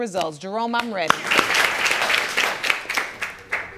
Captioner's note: audience applauding